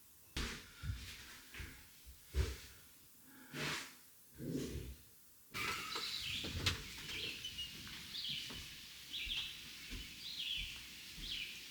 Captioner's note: birds chirping